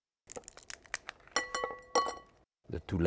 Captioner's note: shell cracks